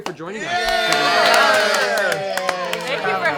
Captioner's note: cheering